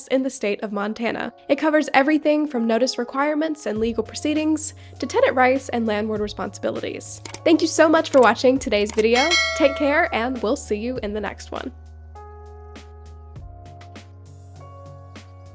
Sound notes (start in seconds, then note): 8.8 mouse clicking; 9.0 bell ringing; 11.9 gentle music continues